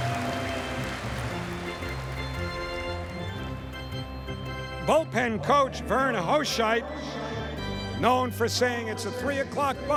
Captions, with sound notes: [cheers and applause] [upbeat music] Boltpen coach Vern Hoscheit, known for saying